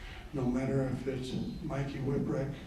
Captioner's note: none